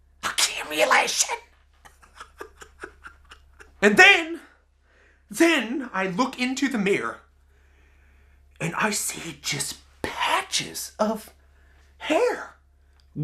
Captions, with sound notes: Accumulation! (laughs hysterically) And then, then I look into the mirror and I see just patches of hair gone.